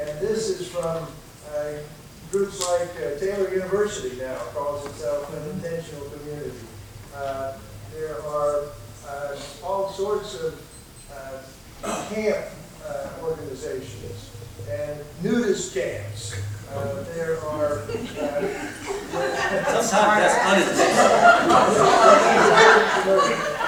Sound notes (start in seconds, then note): 19.0 laughing